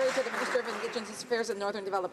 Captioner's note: some Applause